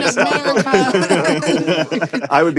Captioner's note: laughter